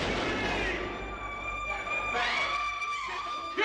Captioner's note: screaming